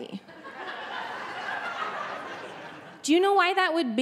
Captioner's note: audience laughing